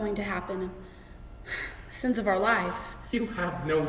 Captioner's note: sighs